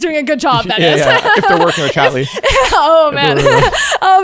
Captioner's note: laughing